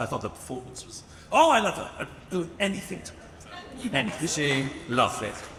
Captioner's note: speaks faintly